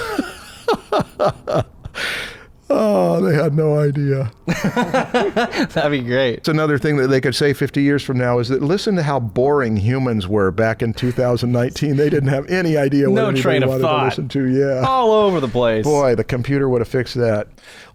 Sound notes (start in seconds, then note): 0.2 laughs; 4.4 laughter